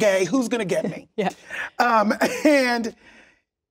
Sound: laughs

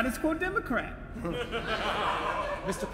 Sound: audience laughter

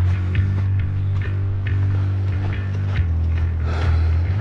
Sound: panting

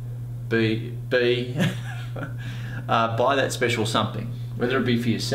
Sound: laughs

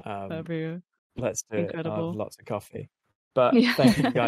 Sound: laughing

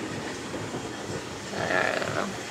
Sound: groans

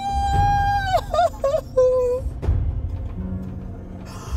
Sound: grandma crying

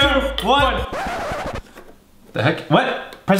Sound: record scratching

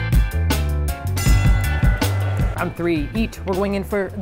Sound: peaceful techno music; loud bell clanging

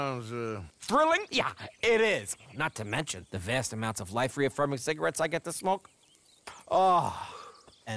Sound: puffs

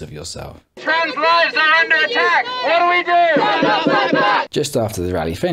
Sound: on megaphone

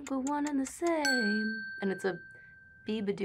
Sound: bell dings

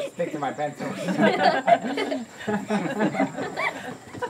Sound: all laughing

